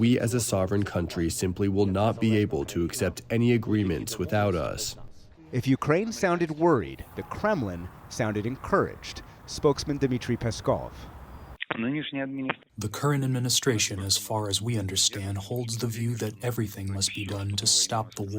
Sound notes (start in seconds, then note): 12.8 through translator